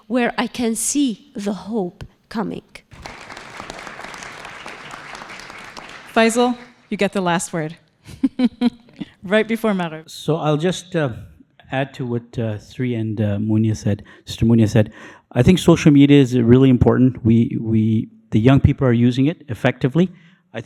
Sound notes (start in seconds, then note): 2.9 audience applauding